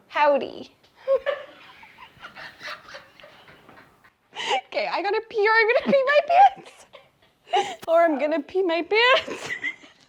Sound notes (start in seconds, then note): 1.0 both laughing; 9.6 laughs